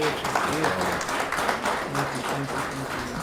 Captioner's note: audience applauding